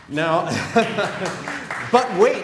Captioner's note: laughter; applause